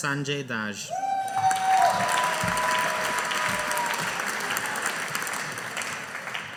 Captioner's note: audience applauding